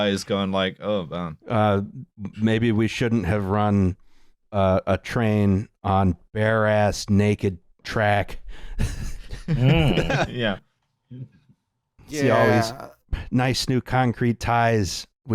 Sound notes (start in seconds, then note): 8.8 laughter